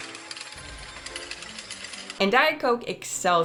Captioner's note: slot machine dinging